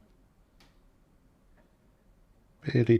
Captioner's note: silence